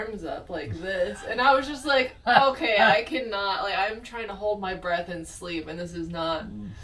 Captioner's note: laughing